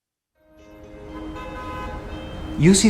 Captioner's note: car honking